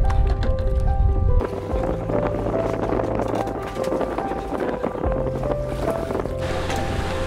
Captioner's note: gusting sound